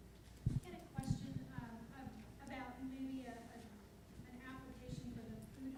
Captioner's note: voiceover